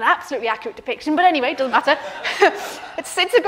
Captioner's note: audience laughing